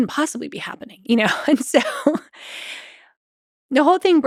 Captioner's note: chuckles